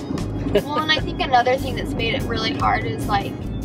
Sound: laughs

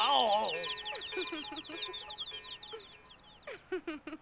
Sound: woman giggling

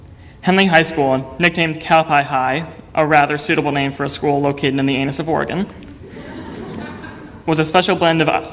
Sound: audience laughter

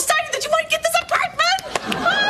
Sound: claps

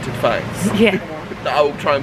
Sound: laughing

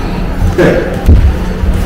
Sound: laughs

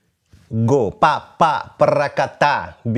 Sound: vocalizes rhythm

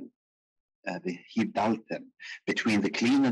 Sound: speaking in foreign language

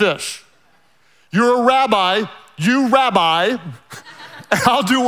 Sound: laughing quietly

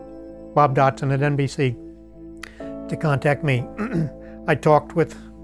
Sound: throat-clearing

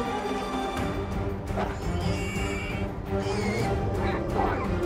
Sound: piglet squeals

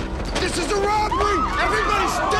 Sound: bystanders screaming

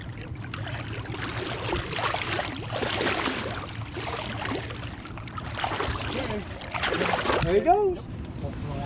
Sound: fish splashing

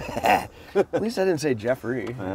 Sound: laughs

